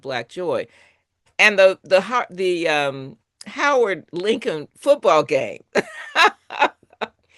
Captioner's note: laughs